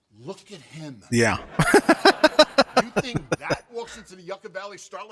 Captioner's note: laughing